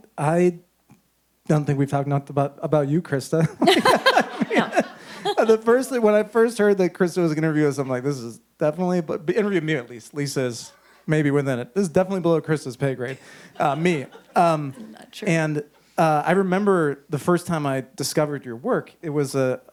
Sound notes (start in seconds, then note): 3.6 audience laughs